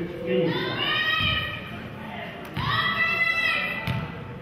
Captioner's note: players hollering